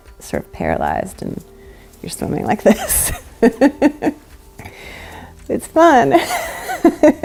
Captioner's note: laughs; laughs